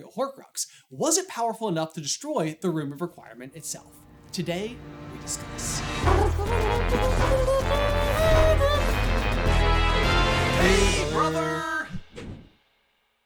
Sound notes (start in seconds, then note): 5.7 intro Theme Music; 5.7 phoneticizing in the background